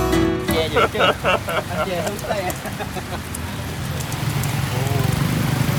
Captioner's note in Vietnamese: tiếng cười